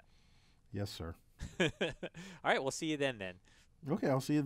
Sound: laugh

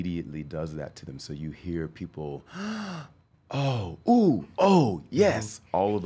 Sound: gasps

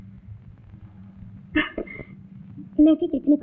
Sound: chuckles

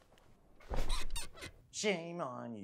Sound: chair squeaking

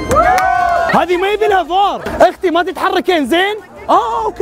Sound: sarcastic

